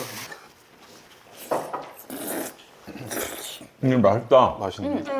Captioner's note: slurp